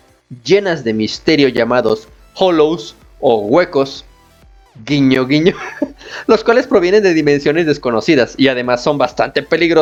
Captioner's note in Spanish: risas